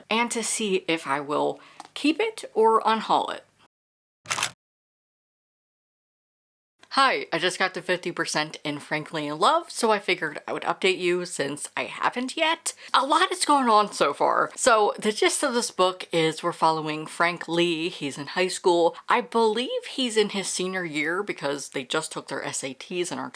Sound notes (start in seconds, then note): 4.2 camera shutter